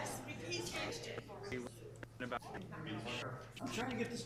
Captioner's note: council talking